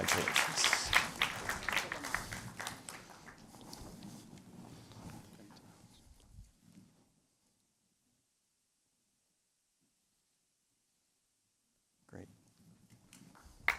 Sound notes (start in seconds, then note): 7.1 silence